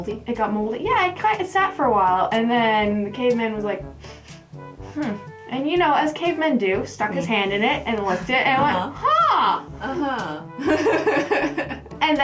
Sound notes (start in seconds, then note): 4.8 sniffing; 10.6 laughter